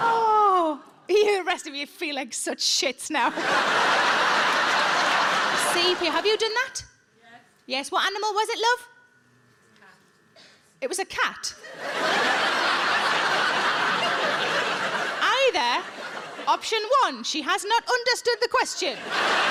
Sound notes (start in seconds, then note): 3.3 audience laughs; 11.6 audience laughs; 18.9 audience laughs